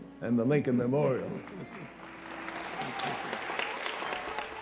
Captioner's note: audience applauding